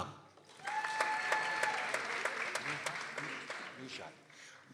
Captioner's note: people applauding